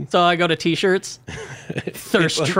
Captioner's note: laughing